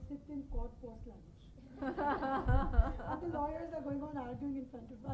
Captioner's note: laughing